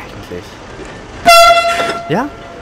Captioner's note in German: Lauter Ton